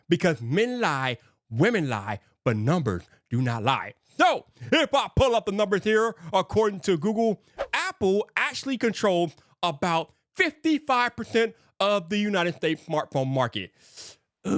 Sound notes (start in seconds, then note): 7.5 screen whooshing